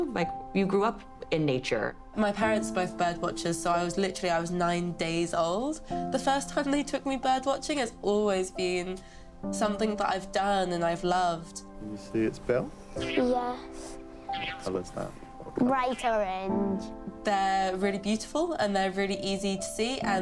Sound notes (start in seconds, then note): 14.0 bird chatter